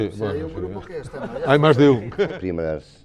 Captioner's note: laughs